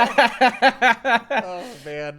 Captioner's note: laughing